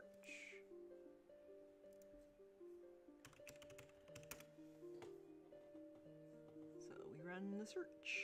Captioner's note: mouse and keyboard clicking